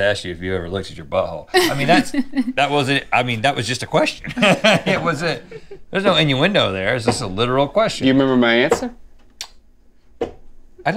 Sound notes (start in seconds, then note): 1.5 laughs; 4.2 laughs